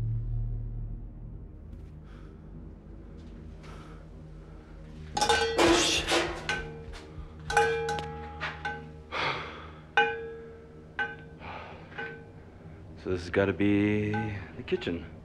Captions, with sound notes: [metallic clang] Oh, shit! [pots and pans clanging] [Kyle exhales in relief] So this has got to be... the kitchen.